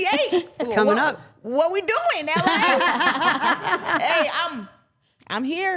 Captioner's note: laughs